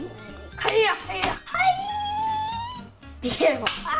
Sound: yells

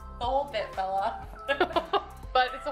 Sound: laughs

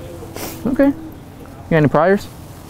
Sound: speaker 1 sobs

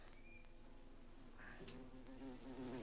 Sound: bee buzzes

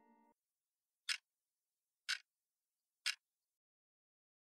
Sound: clock ticking

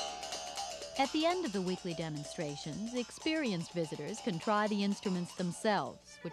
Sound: mouthbow playing; speaking over music

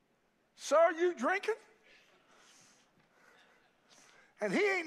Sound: congregation laughs

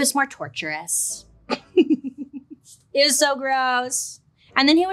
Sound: laughs

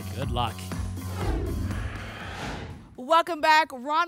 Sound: whoosh

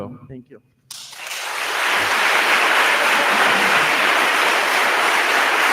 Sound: attendees applauding

